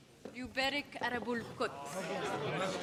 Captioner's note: in arabic